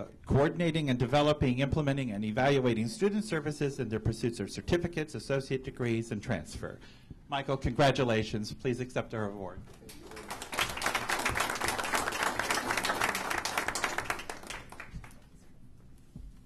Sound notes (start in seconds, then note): 4.4 applause